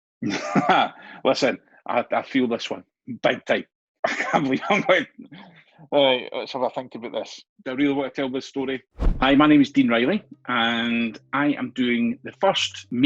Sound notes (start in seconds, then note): 0.0 laughs